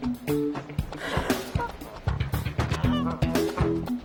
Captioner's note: horse snorts